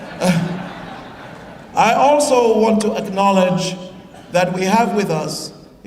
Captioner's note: laughter